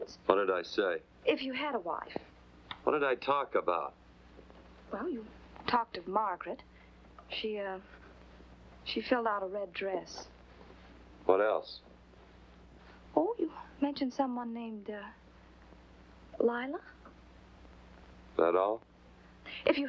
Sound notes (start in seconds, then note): none